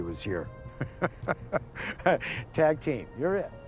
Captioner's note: laughs